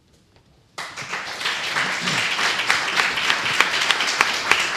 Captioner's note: applause